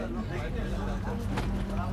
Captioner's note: indistinct chatter